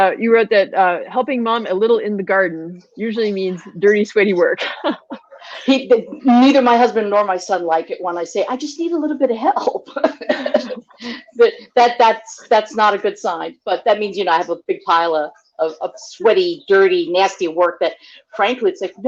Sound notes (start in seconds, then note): 4.4 laughs; 9.6 chuckle